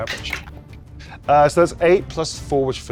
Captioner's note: dice rattling